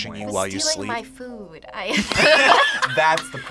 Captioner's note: group laughs